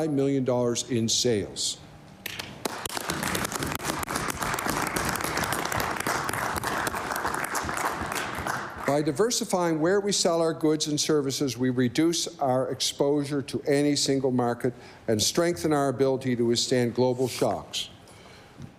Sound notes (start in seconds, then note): 7.0 applause